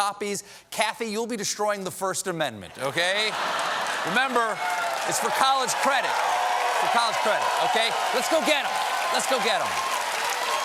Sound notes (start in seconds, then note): 2.7 laughter; 7.9 cheers and applause